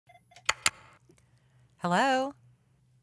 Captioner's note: phone clicks